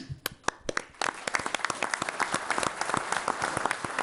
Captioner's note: all applauding